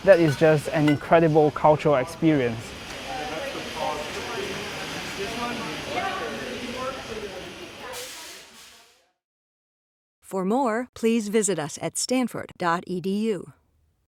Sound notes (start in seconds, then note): 3.1 indistinct chatter